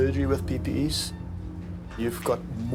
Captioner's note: machine beeping